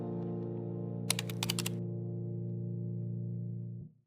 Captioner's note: keyboard clicking